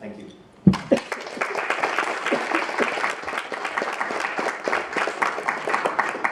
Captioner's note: applauses